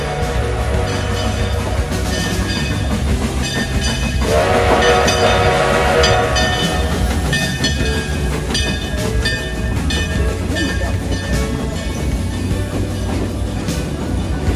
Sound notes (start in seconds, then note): 0.7 bell ringing; 5.2 steam whistle